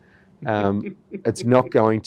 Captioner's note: laughs